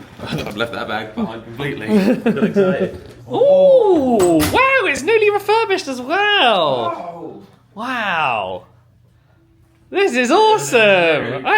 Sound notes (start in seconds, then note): 3.3 both exclaim